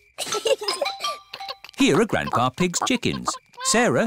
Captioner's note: both giggle